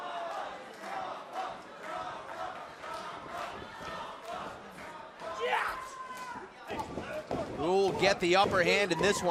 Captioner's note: crowd cheering